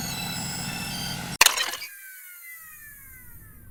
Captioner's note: whirring, descending tone